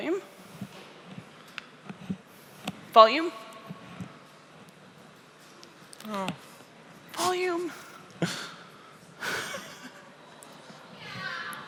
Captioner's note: laughs